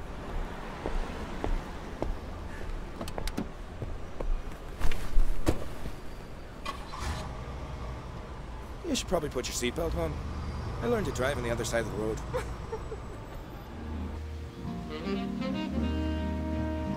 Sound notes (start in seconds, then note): 12.2 Cassidy laughing; 14.2 soft music